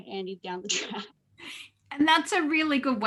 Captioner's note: laughs